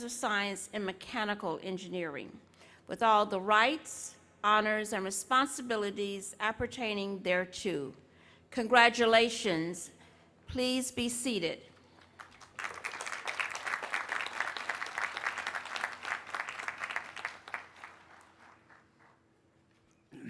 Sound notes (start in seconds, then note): 11.9 applause